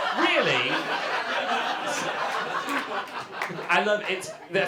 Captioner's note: audience laughter